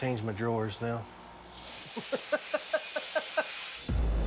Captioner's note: laughs